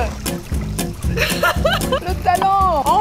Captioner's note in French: rires